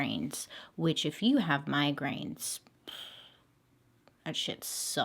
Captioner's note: sighs